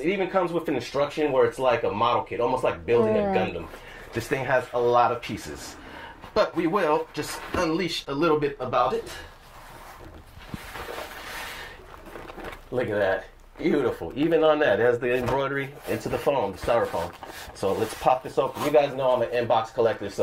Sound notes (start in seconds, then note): 2.9 sounds of agreement